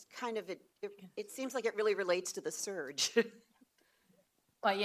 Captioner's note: laughs